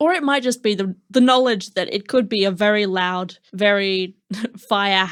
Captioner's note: chuckle